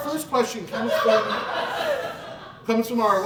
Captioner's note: audience Laughing